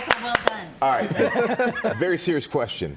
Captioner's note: applause